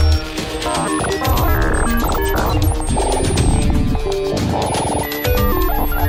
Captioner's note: computer continues beeping